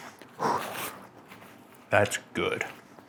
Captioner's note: deeply exhales